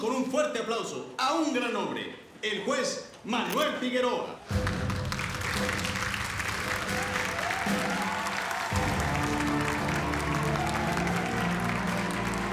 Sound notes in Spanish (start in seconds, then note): 8.6 aplausos